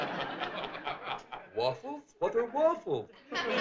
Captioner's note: accented voice